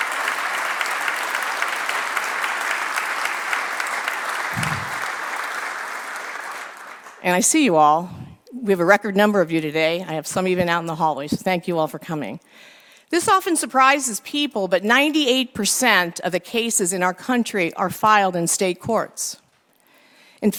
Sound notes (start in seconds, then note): 0.0 applause